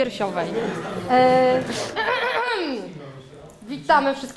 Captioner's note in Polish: głośne chrząknięcie